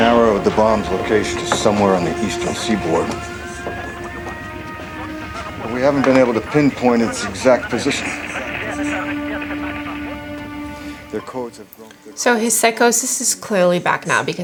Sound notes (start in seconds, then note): 8.5 radio voice speaking in foreign language